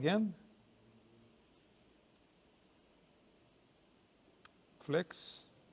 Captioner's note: pause